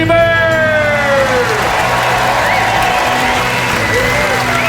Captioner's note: audience applauding